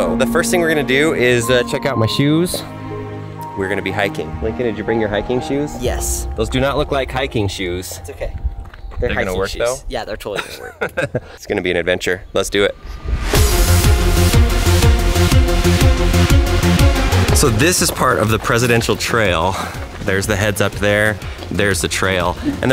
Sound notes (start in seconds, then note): 10.3 laughs; 13.4 dramatic music